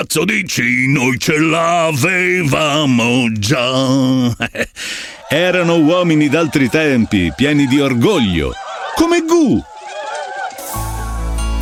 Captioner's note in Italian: Applauso